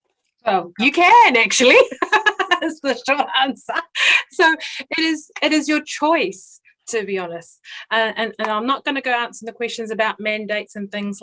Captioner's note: laughs